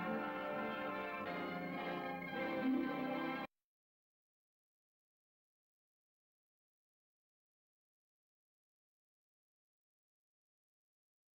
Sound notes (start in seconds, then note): 2.6 silence